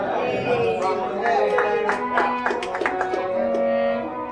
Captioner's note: crowd clapping